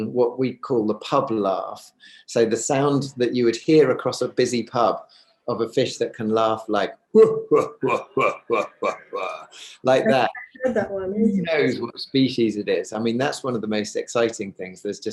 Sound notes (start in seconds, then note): 7.1 laughs deeply